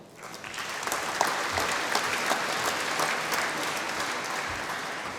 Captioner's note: applause